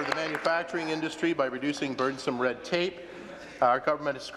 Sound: applause

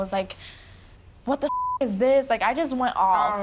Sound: beep

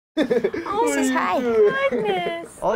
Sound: laughs

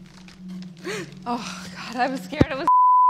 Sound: laughs; gasps

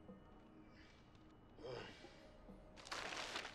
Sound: sighing; paper crunching

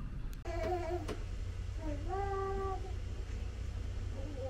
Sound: baby cooing

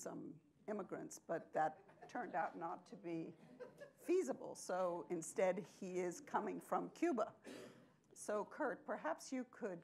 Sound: laughter

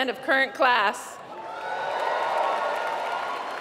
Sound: applause

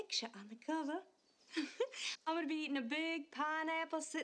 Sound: giggles

